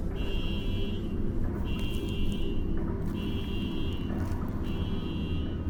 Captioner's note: wanderer crawling